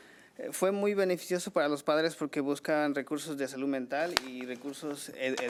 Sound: man speaking foreign language

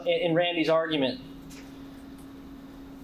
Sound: none

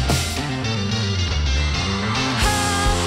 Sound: audience cheering

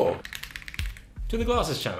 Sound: keys clicking

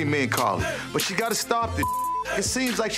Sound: beep

